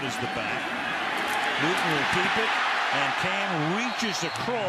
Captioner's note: cheers